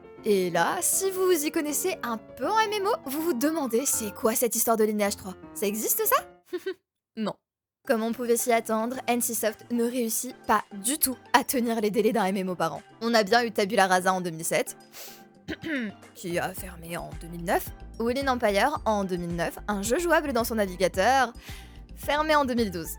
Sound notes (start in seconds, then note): 15.4 clears throat